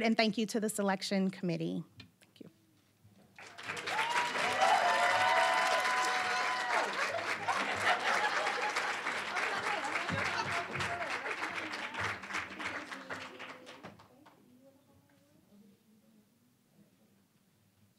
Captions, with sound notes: and thank you to the selection committee. (applause, cheering)